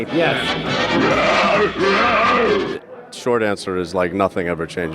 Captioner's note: Herculoid ape groans